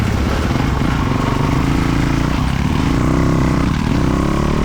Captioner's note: engine revving